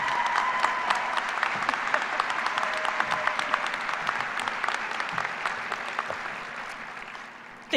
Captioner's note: cheers and applause